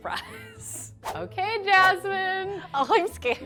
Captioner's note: air whooshing